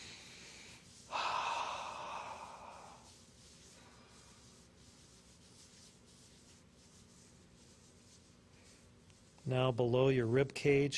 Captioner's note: inhales and exhales once